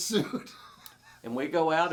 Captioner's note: laughing